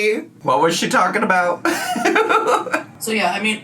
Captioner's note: laughs